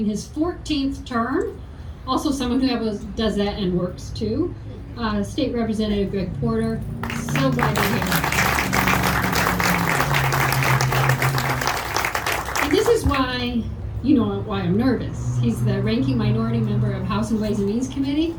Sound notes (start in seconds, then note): 8.6 audience clapping